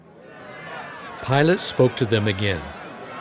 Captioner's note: crowd shouting in background